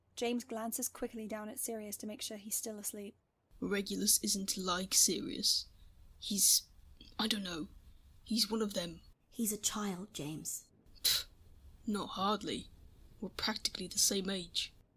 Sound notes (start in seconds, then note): none